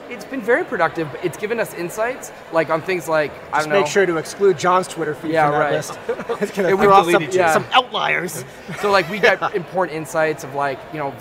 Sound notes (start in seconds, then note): 8.0 laughs